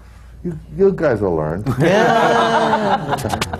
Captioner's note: laughter